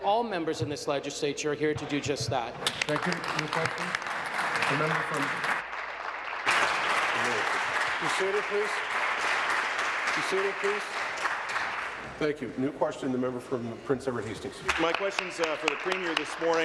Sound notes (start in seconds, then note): 6.2 applause